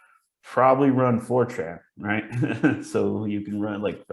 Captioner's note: laughs